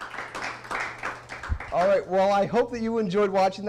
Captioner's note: applause